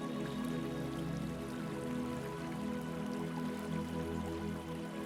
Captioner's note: water trickling